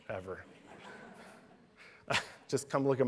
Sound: laughter

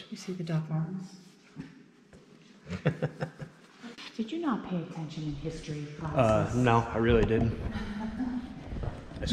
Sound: laughs

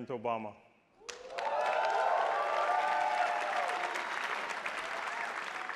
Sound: attendees applauding

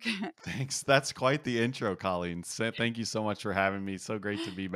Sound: laugh

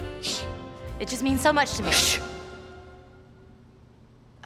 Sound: hushing; hushing

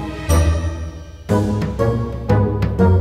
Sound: swoosh

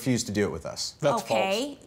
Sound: none

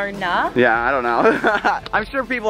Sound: laughs

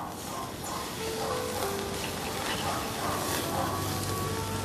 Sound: sizzles

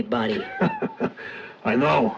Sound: laughs

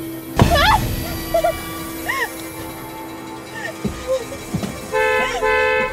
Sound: Amanda crying; horn honking

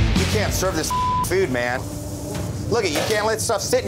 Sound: upbeat rock music; beeping

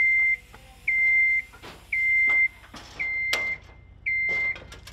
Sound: sound of scissor lift

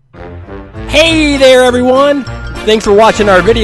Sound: voiceover

